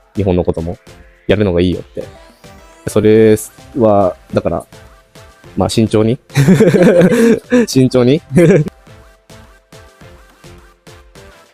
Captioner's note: laughs